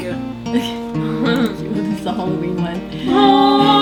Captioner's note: laughs